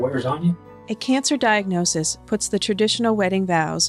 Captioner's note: voiceover